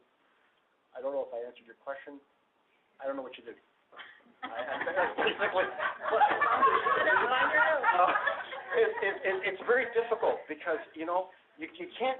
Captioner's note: laughter